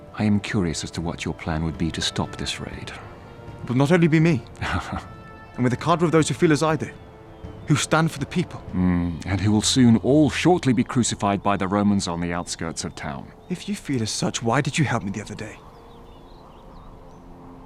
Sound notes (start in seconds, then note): 4.6 chuckles